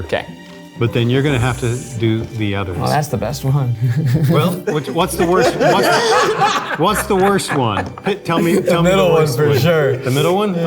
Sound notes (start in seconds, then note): 6.1 group laughing